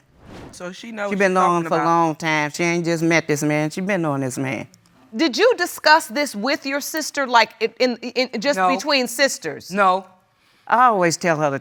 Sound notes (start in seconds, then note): none